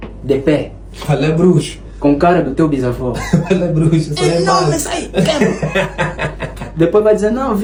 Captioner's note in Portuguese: risadas